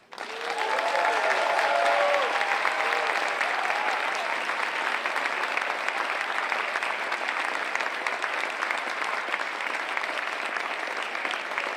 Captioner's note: clapping